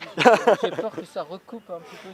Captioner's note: laughter